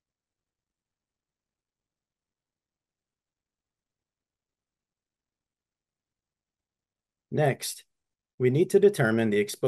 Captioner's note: silence